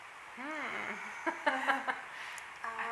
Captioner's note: laughs